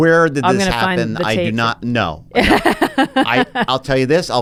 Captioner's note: laughs